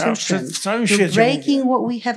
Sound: foreign language

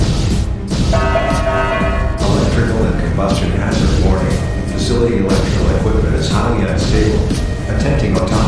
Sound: announcement Chime

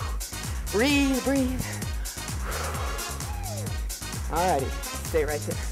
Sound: breathing

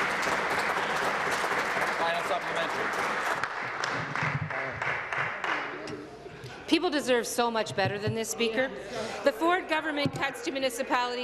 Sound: applause

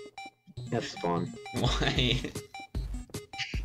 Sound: laughs

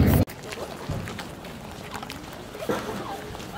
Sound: feet scrunchy

